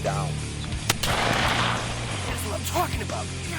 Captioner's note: gun firing